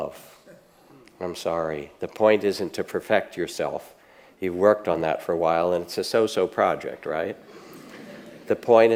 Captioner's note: audience laughs